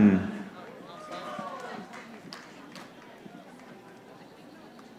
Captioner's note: audience applauding